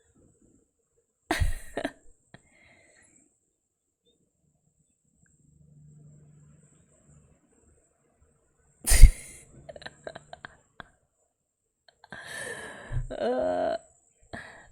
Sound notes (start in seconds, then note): 1.3 laughs; 9.7 laughs